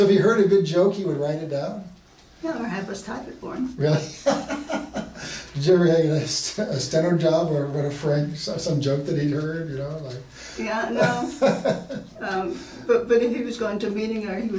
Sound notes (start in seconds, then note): 3.8 laughing; 10.9 laughing